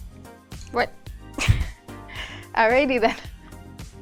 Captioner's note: laughs